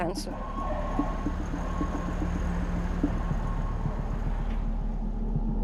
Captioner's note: sirens sounding